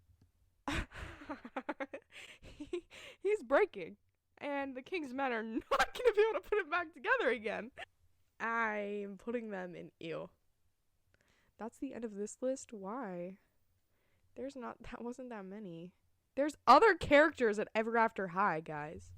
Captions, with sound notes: *evil giggle* He's breaking and the king's men are not going to be able to put him back together again I'm putting them in ew That's the end of this list why? That wasn't that many. There's other character at Ever After High guys